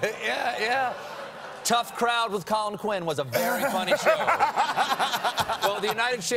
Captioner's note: laughter